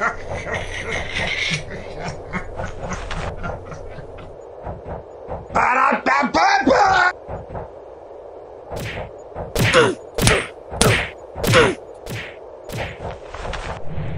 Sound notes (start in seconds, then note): 5.6 yelling